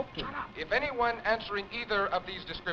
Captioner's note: radio Announcer